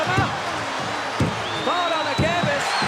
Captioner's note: crowd cheers; commentators exclaim